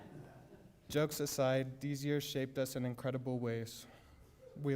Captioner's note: laughter